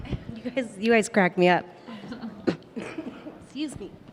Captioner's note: coughs